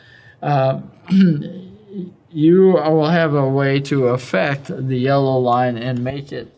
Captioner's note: cough